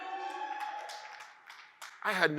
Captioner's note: audience cheers and applauds